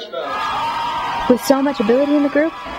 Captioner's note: cheering